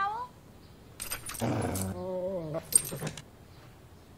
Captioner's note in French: Dog SFX